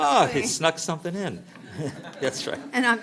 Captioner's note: laughter